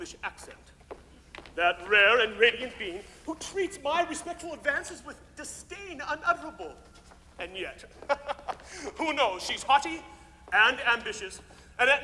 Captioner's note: ha ha!